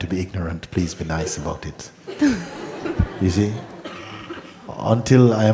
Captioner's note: laughter